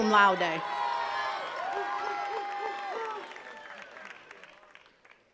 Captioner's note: attendees cheering and clapping